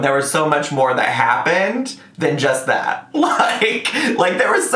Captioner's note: laughs